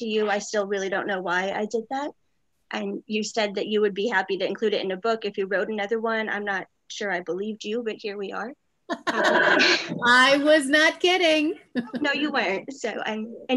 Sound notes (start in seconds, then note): 8.9 laughing